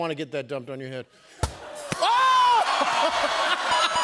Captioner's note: balloon pops; laughter